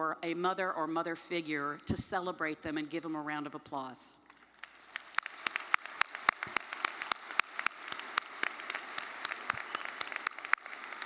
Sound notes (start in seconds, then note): 4.4 audience applauding